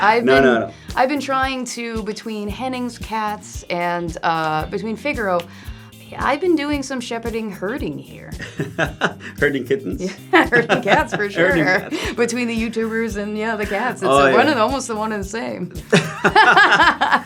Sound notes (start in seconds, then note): 10.1 laugh